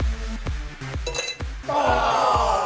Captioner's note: clang; groans